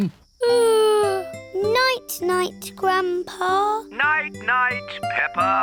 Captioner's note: yawns